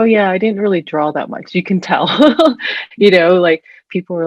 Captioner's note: laughs